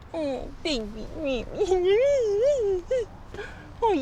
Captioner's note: mocking baby cooing